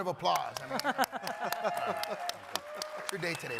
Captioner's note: crowd cheering